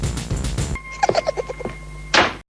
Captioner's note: bird laughing